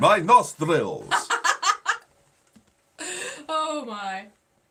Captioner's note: laughing